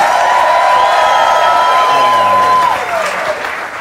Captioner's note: audience cheering